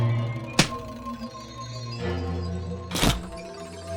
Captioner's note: smack & Thump